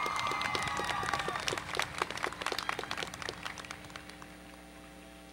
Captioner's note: applause